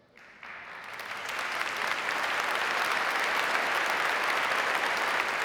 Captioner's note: audience applauding